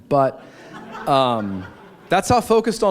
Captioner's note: laughter